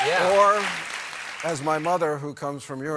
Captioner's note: cheers and applause